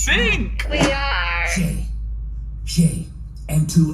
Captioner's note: whispering loudly outside the door